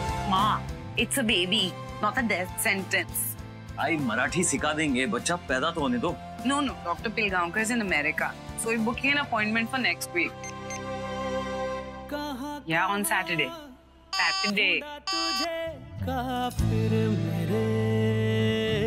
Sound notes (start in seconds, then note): 10.4 Dialling; 15.0 Call waiting sound